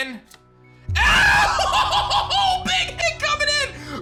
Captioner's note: screams